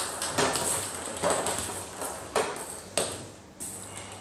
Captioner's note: balls rustling